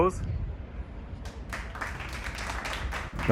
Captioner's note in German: Applaus